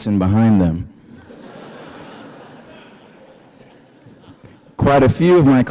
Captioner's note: laughter